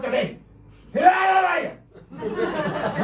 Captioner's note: angry yelling >